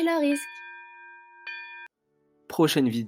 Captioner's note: bell rings à end of class